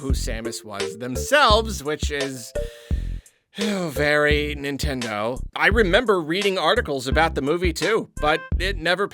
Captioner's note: sigh